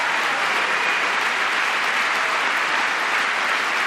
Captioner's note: applause